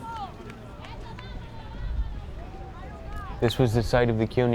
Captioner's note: fans yelling in foreign language